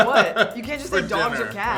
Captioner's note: Winston laughs